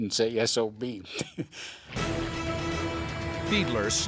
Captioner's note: laughs